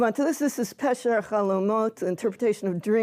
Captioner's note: hebrew